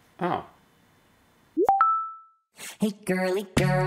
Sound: notification bell

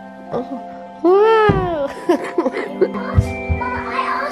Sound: coughs

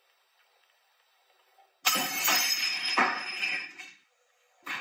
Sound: glass smashes

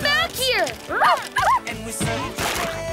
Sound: barking

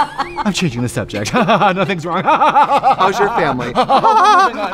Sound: laughs

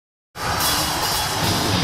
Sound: audience cheering; heavy metal music

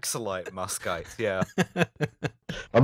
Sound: laughter

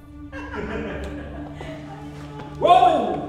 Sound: Sam laughing; Ashley laughing

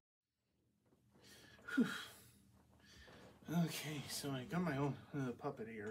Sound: phews

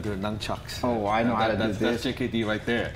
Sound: stuttering

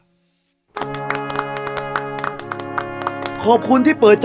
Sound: clapping

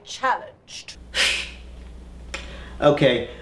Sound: laughs

